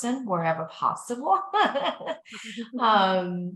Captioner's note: laughs